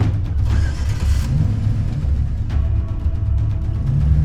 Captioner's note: intense music; engine starts